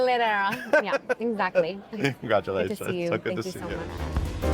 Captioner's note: laughing; retro jazz-funk music